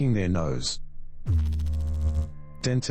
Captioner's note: electrical noise